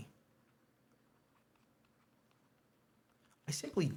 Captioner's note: pen scratches